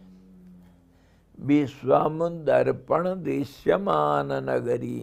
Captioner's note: sanskrit